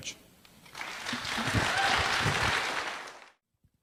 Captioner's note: applause